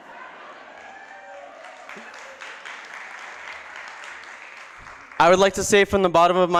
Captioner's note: applause